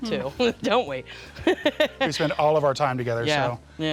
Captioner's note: laughter